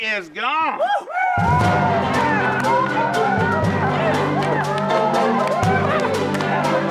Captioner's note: cheering; upbeat western music